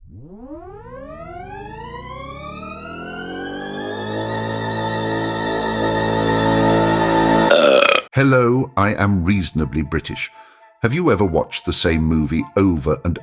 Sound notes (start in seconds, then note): 5.5 burp